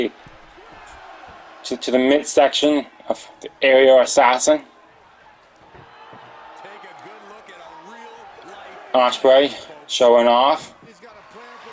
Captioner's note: applause